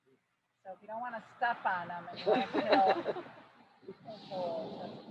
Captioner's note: laughs